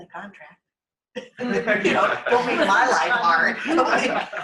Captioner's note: laughter